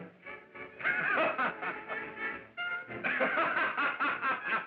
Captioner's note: laughing